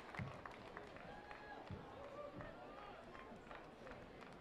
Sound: applause

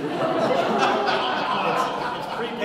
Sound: audience laughing

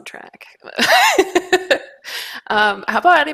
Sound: laughs

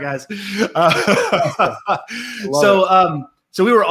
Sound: all laugh

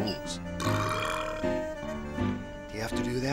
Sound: burps

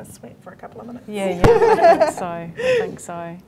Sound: laughing

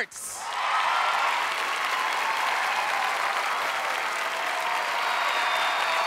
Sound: audience cheering; audience clapping

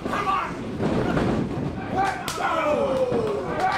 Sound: smacking

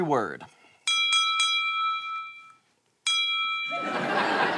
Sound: three dings; ding

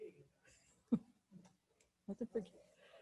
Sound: chuckles

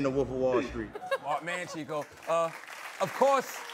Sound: applause

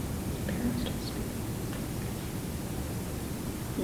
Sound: whispering

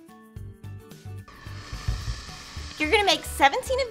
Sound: iron steeps

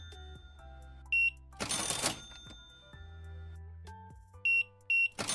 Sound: beeping

